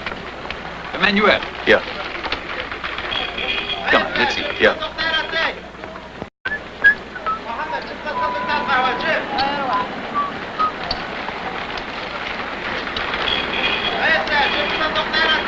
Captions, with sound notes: >> Emmanuel. >> Yeah? >> Come on, let's eat. >> Yeah. (whistling)